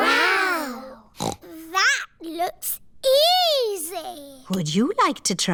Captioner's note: snorts